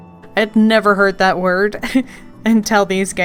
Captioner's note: laughs